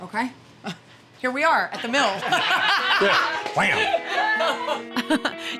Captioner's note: laughing